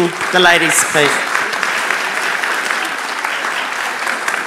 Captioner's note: applauds